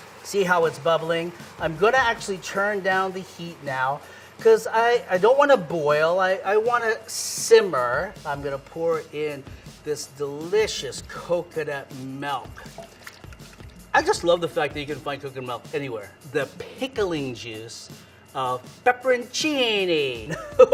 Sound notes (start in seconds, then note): 12.6 pouring coconut milk